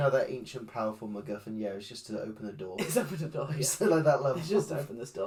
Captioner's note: chuckles